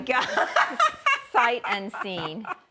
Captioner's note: laughing